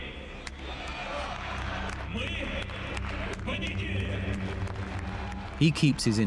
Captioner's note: audience cheers and applauds